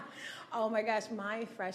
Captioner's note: laughing